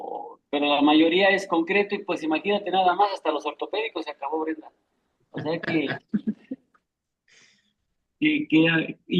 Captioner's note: risas